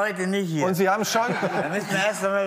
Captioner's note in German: Lachen